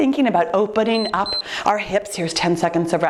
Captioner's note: timer beeps